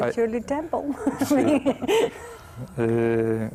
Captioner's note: risas